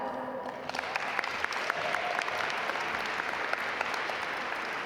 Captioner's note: audience applaud